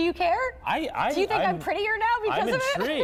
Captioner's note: laughter